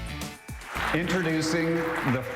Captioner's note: audience clapping